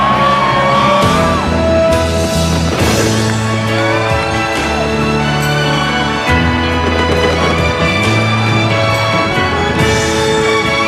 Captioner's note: celebration shouts and fireworks